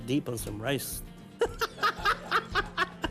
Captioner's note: laughing